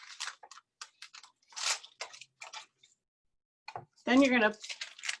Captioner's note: tracing paper rustles